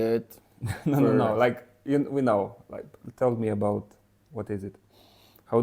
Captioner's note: laughs